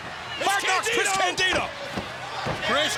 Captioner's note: overlapping chatter